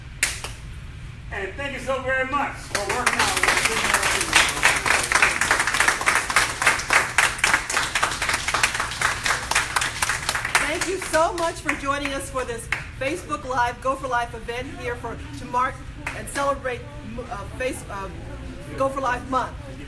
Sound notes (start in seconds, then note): 0.2 claps; 2.7 applause